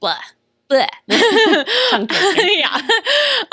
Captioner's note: laughter